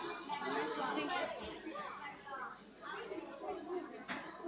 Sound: kids chattering

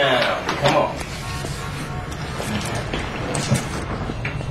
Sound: horn honking

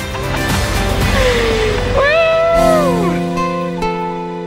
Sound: yells happily

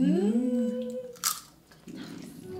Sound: crunches appalam

